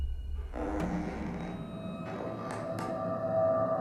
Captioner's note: door creaks